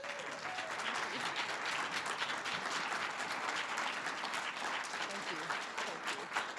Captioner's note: audience applause